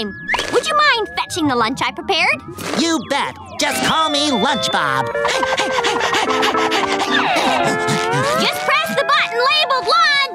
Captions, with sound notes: Would you mind fetching the lunch I prepared? You bet. Just call me lunch Bob. [panting] Just press the button labeled lunch!